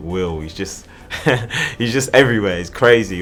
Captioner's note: laughs